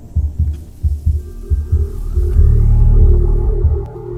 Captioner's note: deep hum, constant; Sonic screwdriver buzzing